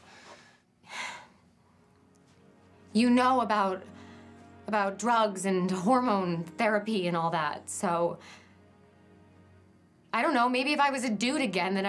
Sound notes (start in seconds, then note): 3.9 exhales